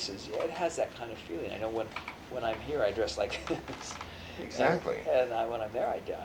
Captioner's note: laughs